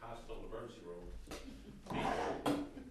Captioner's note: background laughter